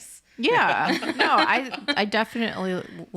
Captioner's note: laughs